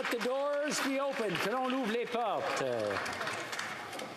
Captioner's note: applause